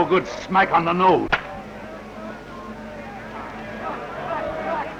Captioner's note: slapping